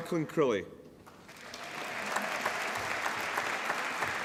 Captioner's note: applause